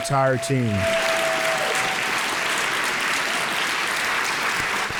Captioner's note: audience applauds